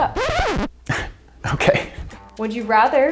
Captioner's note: record scratching; laughing